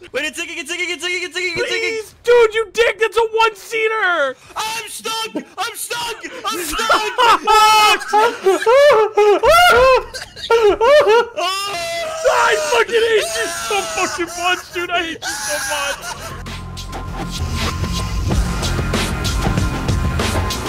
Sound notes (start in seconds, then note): 6.9 laughs; 11.4 yells; 15.5 theme music plays